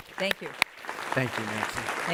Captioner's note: audience applause